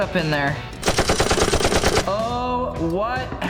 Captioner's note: metal clanging